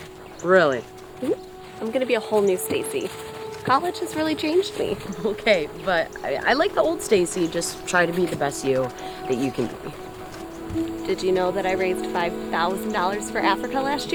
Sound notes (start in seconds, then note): 4.8 chuckles